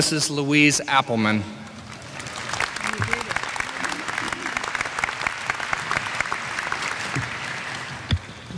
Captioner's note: applause